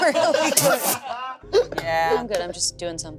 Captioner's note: everyone laughing